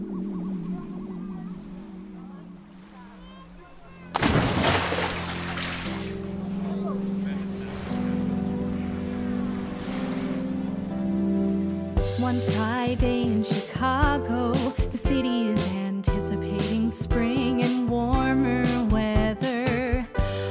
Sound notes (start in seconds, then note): 0.0 equipment powering down; 3.9 water splashing; 5.1 theme song music